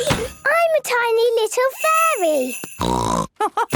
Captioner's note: snort; laugh